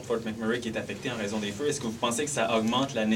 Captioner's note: speaking french